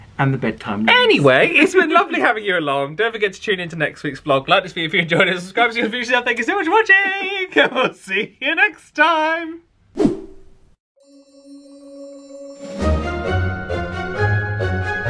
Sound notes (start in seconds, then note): 7.0 chuckles; 10.0 screen wipe whooshes; 11.0 magical outro music